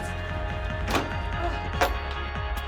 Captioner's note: door shuts